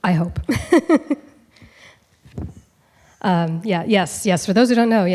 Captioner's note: laughs